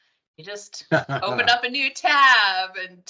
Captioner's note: laughing